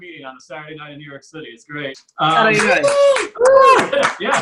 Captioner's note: audience Cheers